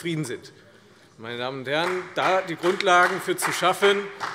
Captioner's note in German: Beifall